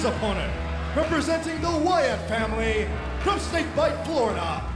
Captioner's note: crowd cheering